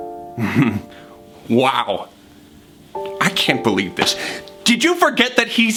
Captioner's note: chuckles